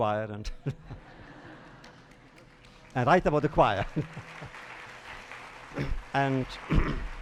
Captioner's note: laughs; applause